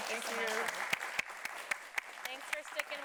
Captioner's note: audience clapping